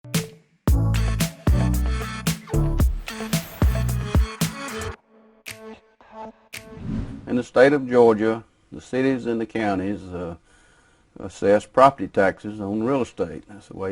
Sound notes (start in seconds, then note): 0.6 upbeat electronic music; 6.6 whoosh